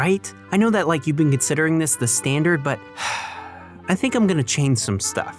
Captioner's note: sigh